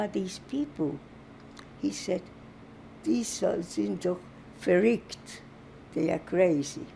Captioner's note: german